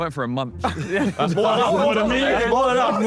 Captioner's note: Sidemen laugh